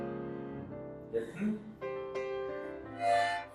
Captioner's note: therapist speaking in German; strong harmonica